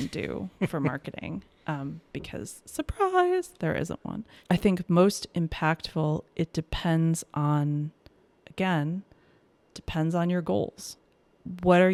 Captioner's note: laughs